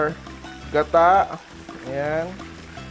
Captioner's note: sizzle